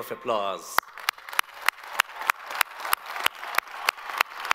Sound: all applaud

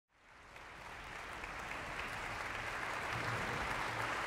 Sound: audience applauding

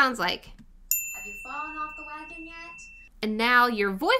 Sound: bell ringing

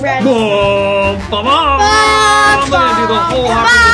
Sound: excited cheering

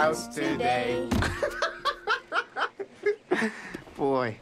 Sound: laughing

